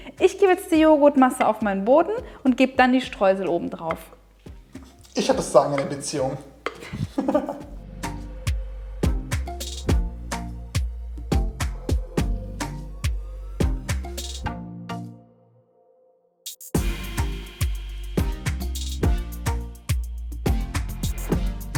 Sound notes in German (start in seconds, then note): 6.8 lacht